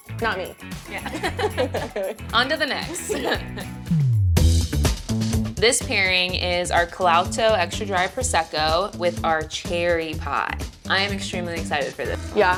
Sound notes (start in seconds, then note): 2.8 chuckle; 3.4 upbeat music